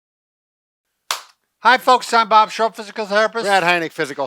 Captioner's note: claps